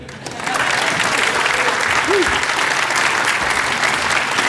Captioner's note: applause